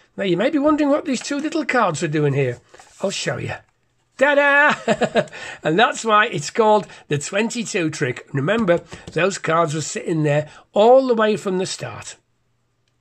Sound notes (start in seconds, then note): 4.7 laughs